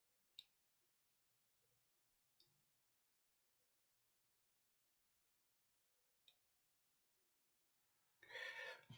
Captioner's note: silence